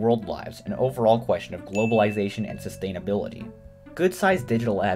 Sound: ding

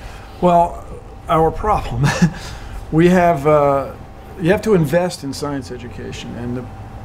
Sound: chuckles

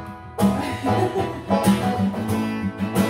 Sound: laughter

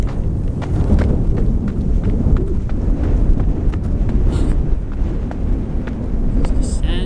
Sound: sound of running

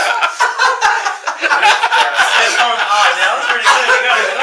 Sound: laughing

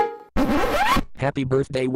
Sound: record scratches

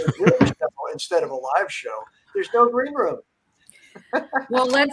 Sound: laughs

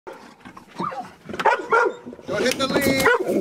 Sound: dog barking

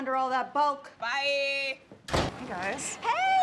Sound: door slam

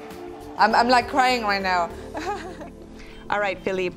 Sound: laughs

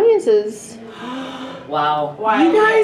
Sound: gasping

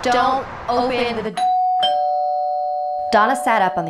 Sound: doorbell rings

